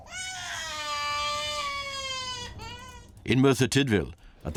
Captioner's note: baby crying